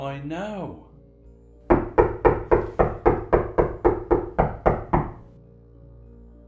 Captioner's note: knocking intensifies